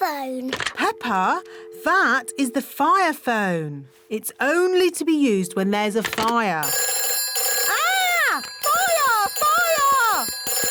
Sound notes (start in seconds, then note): 4.6 phone rings